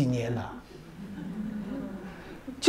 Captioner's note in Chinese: 哈哈哈